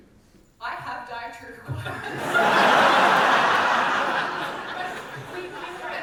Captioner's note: big audience laugh